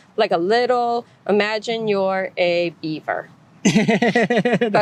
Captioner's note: laughter